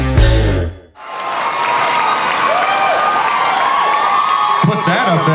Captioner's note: upbeat guitar riff; audience cheers and applauds